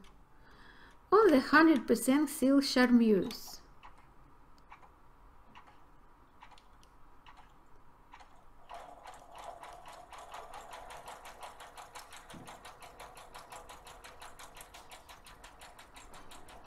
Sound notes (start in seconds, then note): 8.6 sewing machine humming